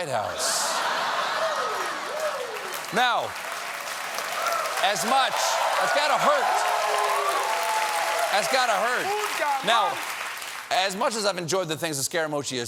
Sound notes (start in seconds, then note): 3.9 cheering and applause